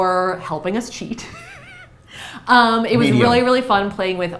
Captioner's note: chuckles